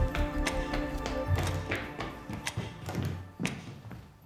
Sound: footsteps approaching

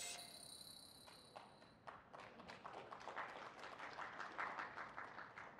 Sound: applause

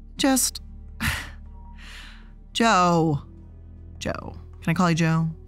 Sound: sighs

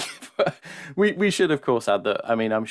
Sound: laughs

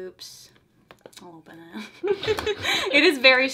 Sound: laughs

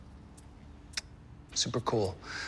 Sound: smacks lips

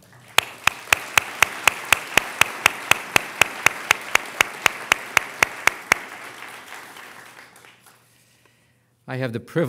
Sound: applause

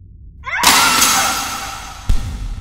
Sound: woman screams; glass shatters

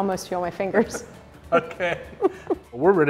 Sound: laughing

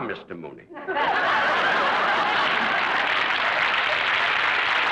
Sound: audience applauds

